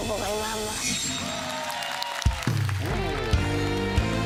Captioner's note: cheering, applause